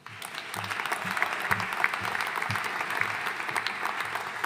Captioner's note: audience applauding